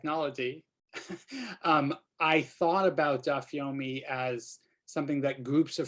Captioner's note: laughter